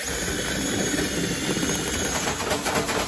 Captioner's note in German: Geräusch einer elektrischen Bohrmaschine